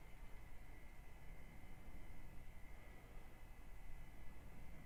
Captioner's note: none